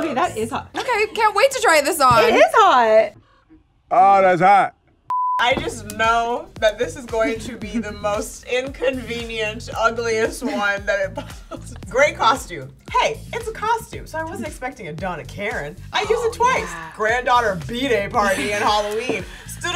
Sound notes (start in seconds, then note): 5.1 beep